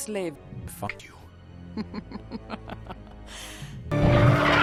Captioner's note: Miraj laughing